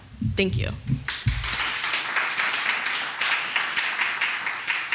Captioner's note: audience applauds